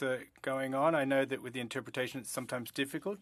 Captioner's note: speaking French